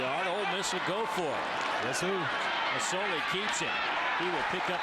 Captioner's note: crowd noise